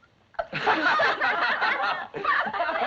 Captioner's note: all laughing